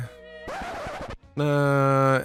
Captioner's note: record scratch